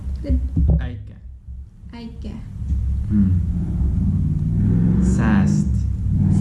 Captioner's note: thunder